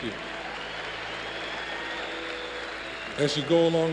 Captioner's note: cheers and applause